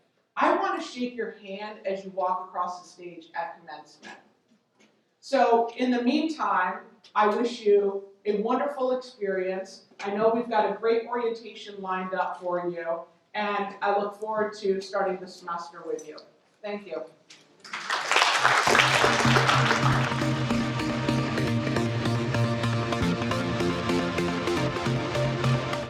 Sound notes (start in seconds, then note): 17.6 applause; 18.4 electronic music